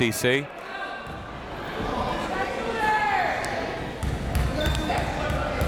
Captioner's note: crowd members shouting